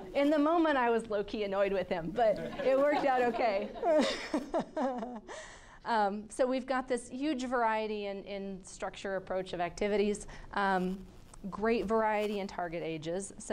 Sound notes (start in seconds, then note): 4.0 laughing